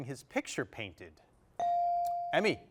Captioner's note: bell chiming